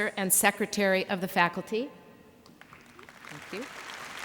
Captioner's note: applause